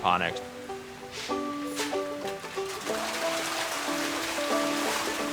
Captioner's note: fish splashing